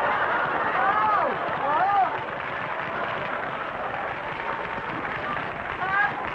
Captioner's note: audience applauding